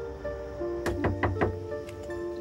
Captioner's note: knocking